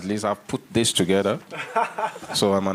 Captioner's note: laughs